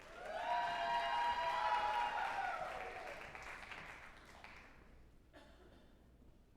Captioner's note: group applauding and cheering